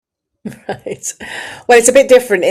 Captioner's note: laughs